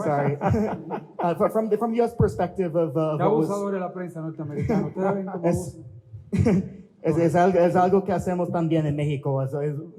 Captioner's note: laughter